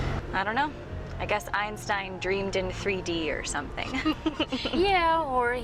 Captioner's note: laughter